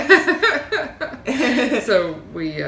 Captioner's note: both laughing